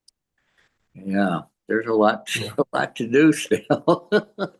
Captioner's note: laughs